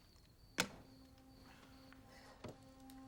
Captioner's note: gun thuds; foreboding music